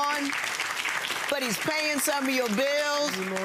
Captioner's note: audience clapping